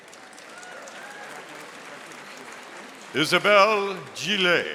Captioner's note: audience applauding